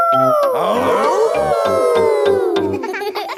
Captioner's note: all howling; howling